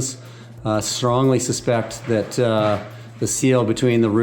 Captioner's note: objects clanking distantly